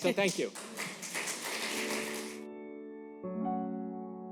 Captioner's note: applause